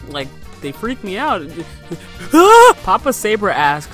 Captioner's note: scared noises